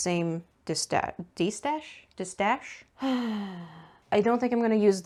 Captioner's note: sighs deeply